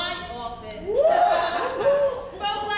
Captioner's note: group laughs